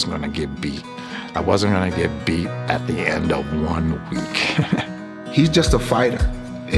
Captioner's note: laughs